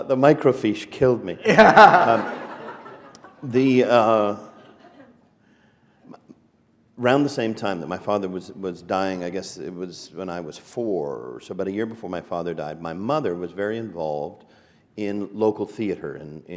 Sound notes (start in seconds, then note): 1.4 laughter